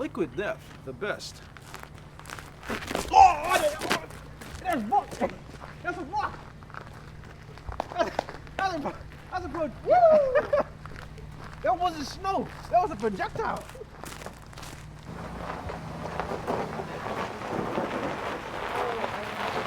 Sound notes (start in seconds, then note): 8.3 stuttering; 9.7 laughing; 15.3 snow crushing